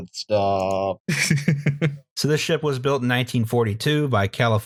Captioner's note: laughter